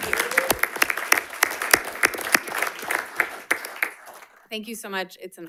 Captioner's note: audience applauding